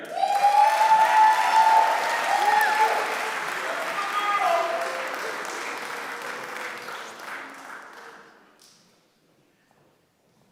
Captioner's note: applause